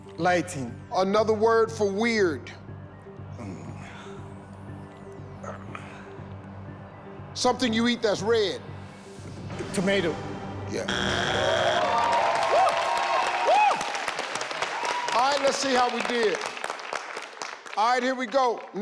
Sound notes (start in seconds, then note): 10.8 buzzer rings; 12.9 audience cheers